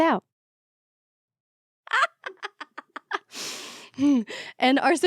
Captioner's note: laughing